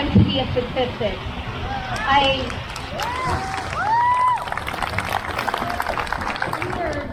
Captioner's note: crowd cheers